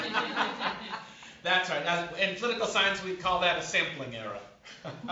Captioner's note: laughter